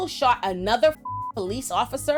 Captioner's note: beep